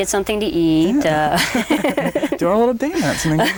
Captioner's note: both laugh